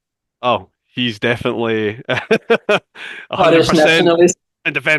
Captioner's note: laughs